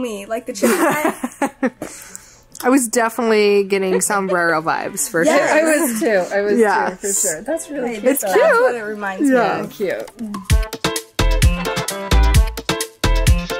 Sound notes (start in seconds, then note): 0.6 laughs; 10.5 upbeat music